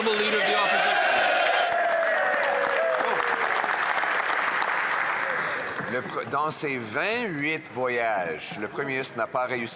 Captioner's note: some Applause